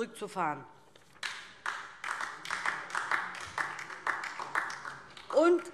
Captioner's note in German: Beifall DIE LINKE